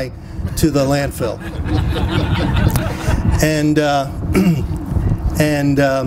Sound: laughter

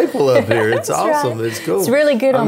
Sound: laughs

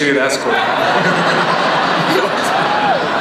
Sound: audience laughs

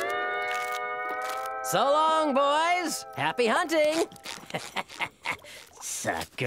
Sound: chuckles

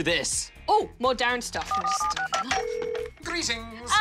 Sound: buttons beep, line rings

